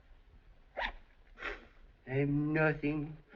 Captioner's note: sniffles